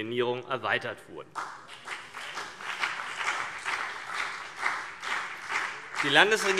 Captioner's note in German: Beifall CDU und BÜNDNIS 90/DIE GRÜNEN